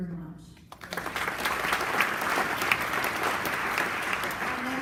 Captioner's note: applause